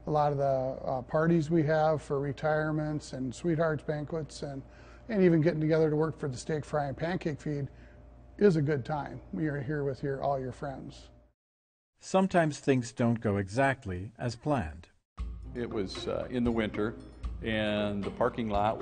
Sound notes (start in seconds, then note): 13.6 voiceover